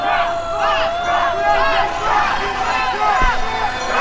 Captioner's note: bells clang; sirens wail